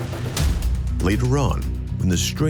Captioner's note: swooshing